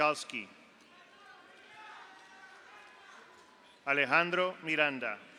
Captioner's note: audience applauds; audience cheers